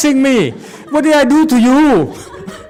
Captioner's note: audience laughs